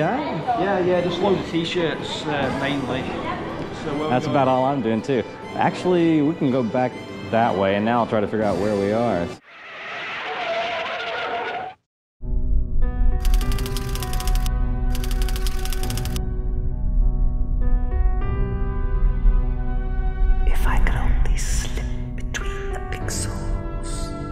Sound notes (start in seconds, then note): 9.4 tires screeching; 12.4 ominous piano music; 12.4 typewriter clicking